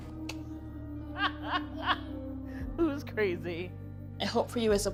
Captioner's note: laughs